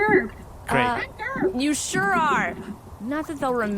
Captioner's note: in a lower voice